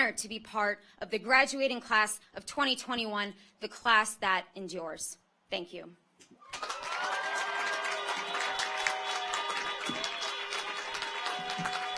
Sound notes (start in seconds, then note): 6.4 audience cheers; 6.4 car horns honking